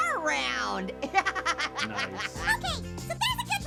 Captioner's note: Annoying Orange laughs